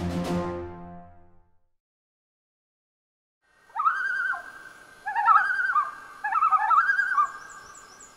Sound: loon singing

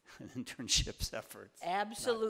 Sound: laughing

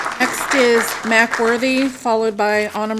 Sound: applause

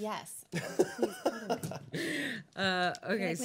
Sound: laughing

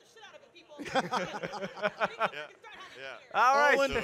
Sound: laugh

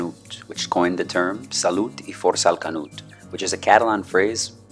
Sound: speaking in foreign language

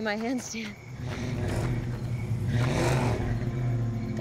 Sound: engine revving

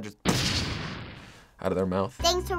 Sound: boom!

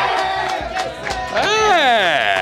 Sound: cheering

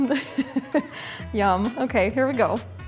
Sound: laughs

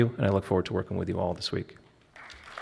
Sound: applause

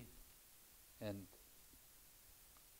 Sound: speaks in foreign language

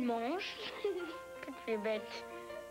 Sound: giggles

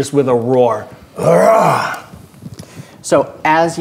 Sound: roaring

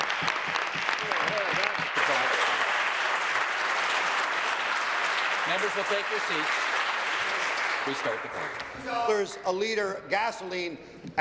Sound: applause

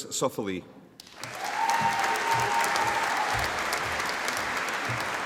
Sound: audience applauding

